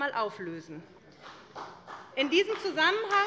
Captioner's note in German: Beifall bei der SPD